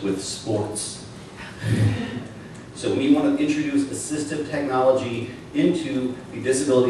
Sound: laughter

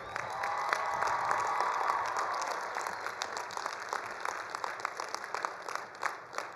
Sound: attendees cheering; attendees applauding

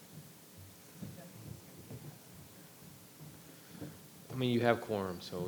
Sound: footsteps thudding

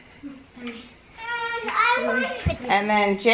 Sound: mumbles

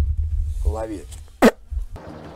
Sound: A throw that sounds like a spit

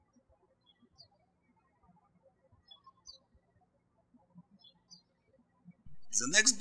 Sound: birds chirping

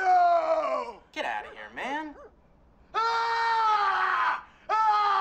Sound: yelling

